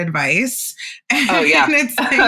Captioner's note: laugh; laughs